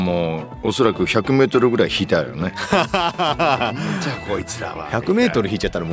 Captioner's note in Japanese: 笑い